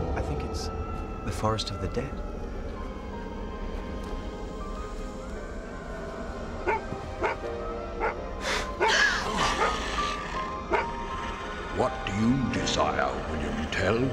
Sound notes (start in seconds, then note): 7.2 Elvar barks; 8.4 all gasp